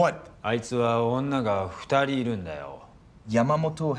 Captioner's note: speaking in foreign language